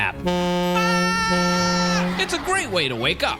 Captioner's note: horn honking